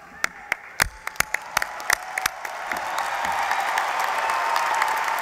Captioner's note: applause